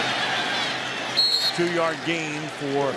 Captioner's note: whistle